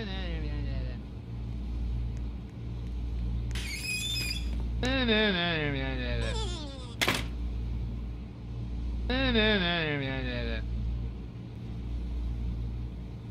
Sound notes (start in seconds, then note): 3.5 door Creaking; 6.9 closing door